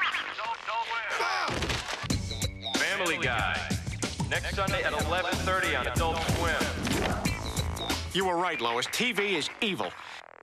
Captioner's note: Brian hollers